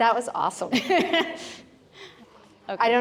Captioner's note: laughter